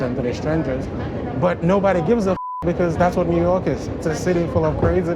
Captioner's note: beep